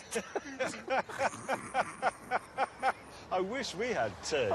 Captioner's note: laughter